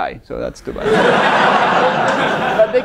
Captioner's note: laughter